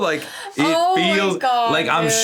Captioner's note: laughs